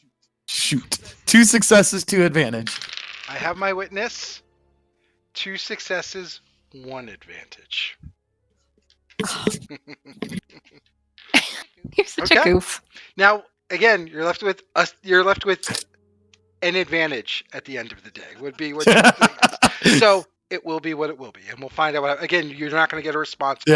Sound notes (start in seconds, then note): 18.3 laughs